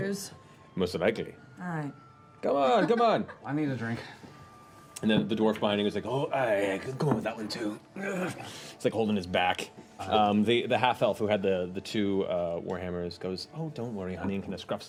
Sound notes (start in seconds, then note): 8.0 grunts